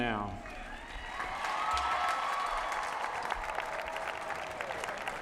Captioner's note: applause